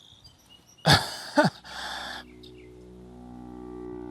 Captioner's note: Kevin laughs